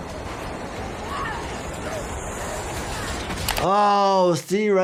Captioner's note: train whirs; yells